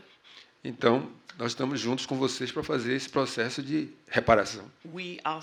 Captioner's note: speaking portuguese